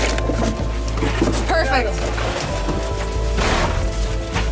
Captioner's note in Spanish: Golpes